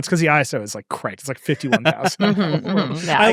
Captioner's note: laughing